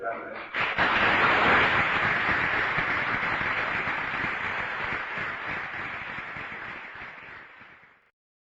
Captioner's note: applause